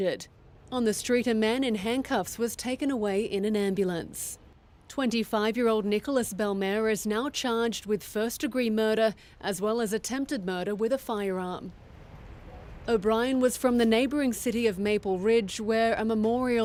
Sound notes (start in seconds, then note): none